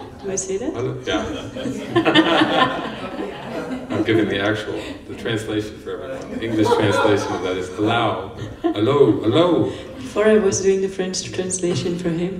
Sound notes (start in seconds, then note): 2.8 laughter